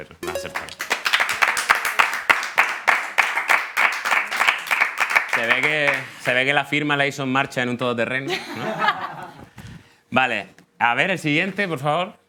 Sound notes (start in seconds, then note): 0.3 applause; 8.3 laughing